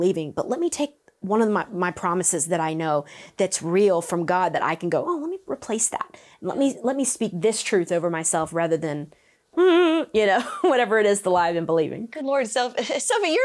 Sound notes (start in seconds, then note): 9.0 whimpers